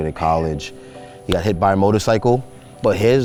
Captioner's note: hands clap